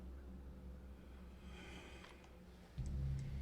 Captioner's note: McKenna inhales